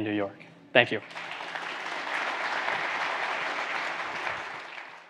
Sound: audience applauds

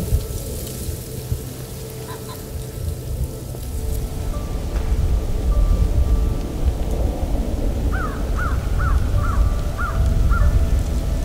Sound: sound of wind, soft music

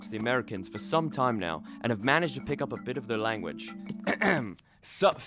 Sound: clears throat

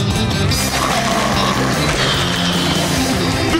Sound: snoring

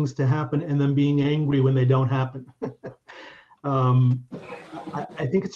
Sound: chuckling

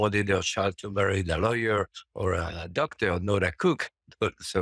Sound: chuckles

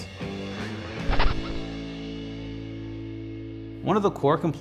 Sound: record scratches; upbeat music

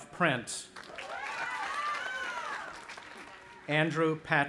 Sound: audience applauding

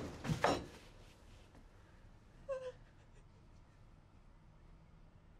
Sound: whimpers

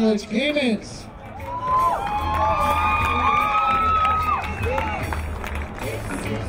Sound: crowd applauding; crowd cheering

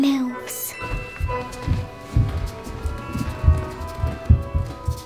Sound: footsteps thudding

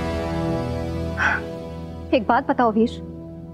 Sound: sighing

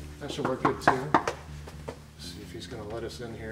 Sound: knocking on door

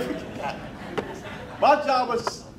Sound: crowd laughing

